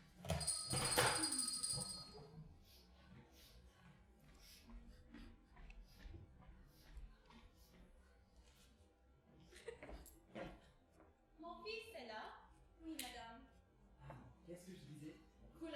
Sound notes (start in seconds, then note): 0.2 the doorbell rings; 4.3 sniveling